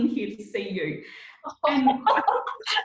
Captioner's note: laughing